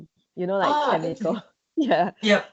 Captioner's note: laughs